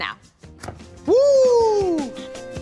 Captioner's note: fire popping